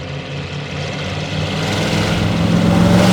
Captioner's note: engine noise